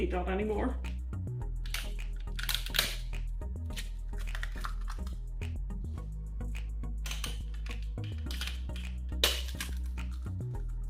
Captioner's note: eggs crack three times